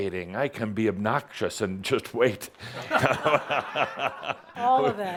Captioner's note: laughter